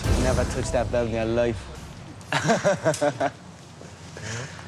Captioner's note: laughs